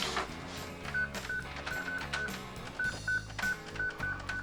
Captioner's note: beeping